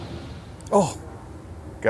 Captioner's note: groans